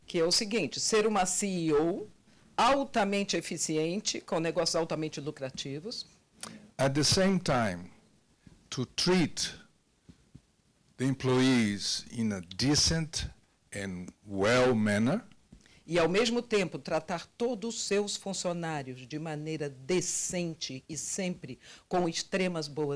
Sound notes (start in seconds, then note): 0.3 translator speaking Portuguese; 16.1 translator speaking Portuguese